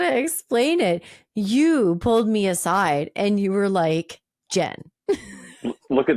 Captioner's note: laughing